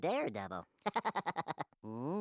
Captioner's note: laughing